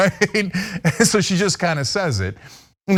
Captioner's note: laugh